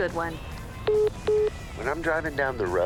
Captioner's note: phone message beeping